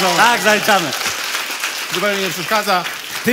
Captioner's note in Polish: oklaski